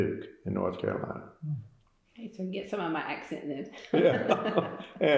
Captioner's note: laughter